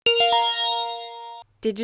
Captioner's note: chime